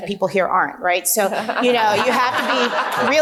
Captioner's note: group laughing